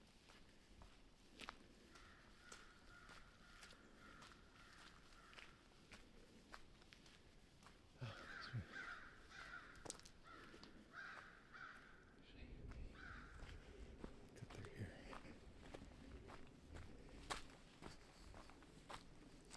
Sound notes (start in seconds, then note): 12.2 bird caws; 16.7 footsteps